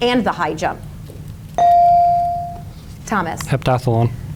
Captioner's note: bell dings